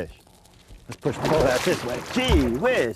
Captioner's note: big splashing